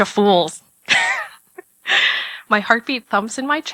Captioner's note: laugh